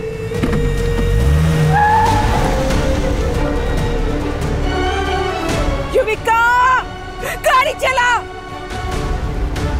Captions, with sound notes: [tyre screeches] Yuvika, drive!